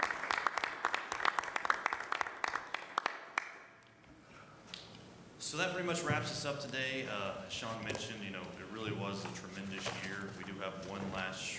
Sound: applause

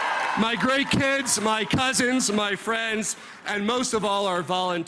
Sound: applause

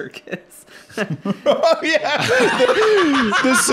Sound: laughing; laughs

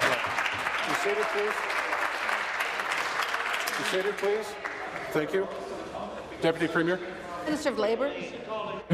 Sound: applause

